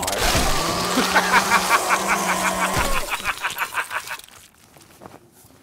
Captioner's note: laughs like a maniac